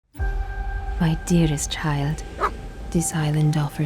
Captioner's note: dog barks